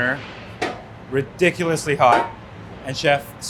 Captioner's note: lid clangs